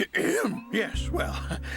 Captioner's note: clears throat